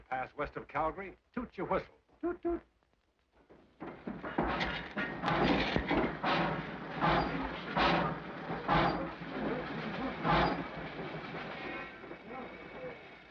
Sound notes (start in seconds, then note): 4.8 train clangs